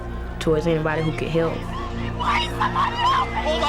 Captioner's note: screaming